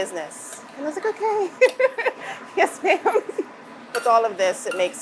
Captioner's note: laughs